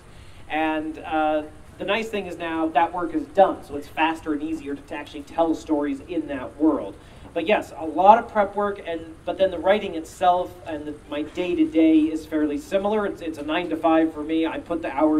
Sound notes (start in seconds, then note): none